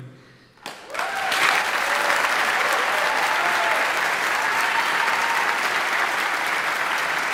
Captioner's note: audience applauding; audience cheering